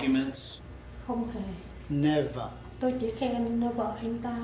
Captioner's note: speaks Vietnamese; speaking Vietnamese